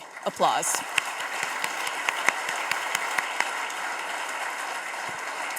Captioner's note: audience applauding